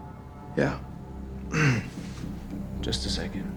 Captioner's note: clears throat